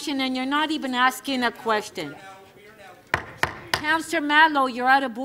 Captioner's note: strikes gavel